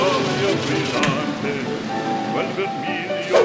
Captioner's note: gas stove sound